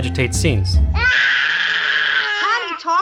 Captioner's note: baby cries